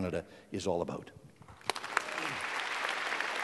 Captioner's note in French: Applaudissements